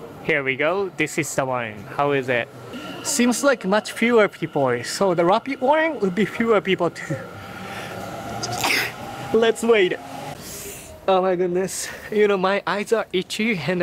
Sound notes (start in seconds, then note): 8.5 sneezes; 10.7 winces